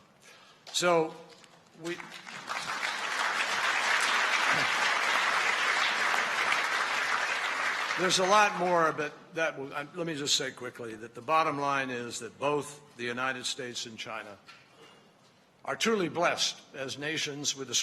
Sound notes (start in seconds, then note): 1.8 applause